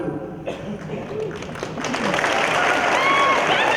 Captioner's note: applause